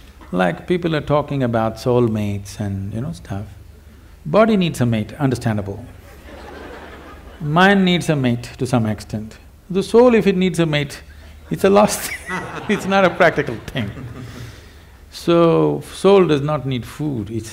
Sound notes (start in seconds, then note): 6.0 laughter; 11.5 Devi Shetty Laughs